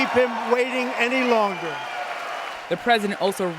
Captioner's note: cheering and applause